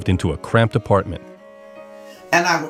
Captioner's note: soundbite of archived recording